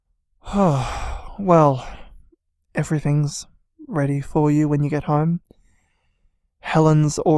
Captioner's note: sighs